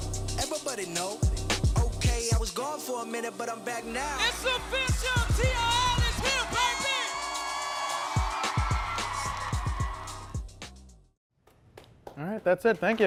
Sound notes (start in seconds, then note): 7.6 audience cheering